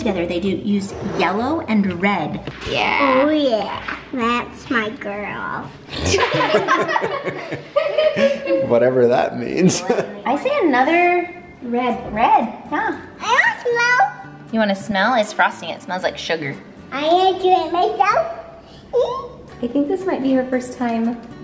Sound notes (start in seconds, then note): 5.9 laughing